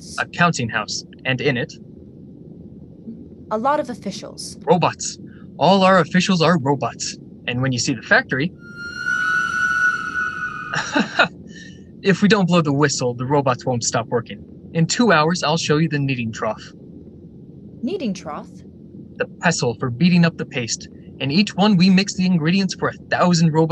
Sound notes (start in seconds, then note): 10.8 laughs